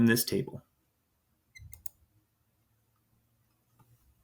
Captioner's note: mouse clicks